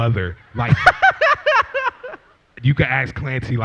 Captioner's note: laughter